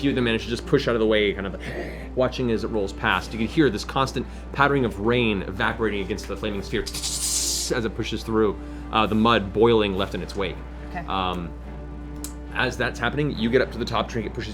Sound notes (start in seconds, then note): 1.7 growls; 6.8 sizzling